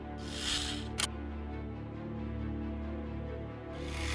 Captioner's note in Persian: صدای خرناس